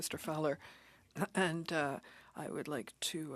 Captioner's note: speaking French